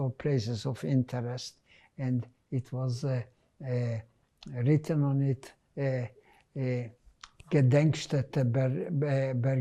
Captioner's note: german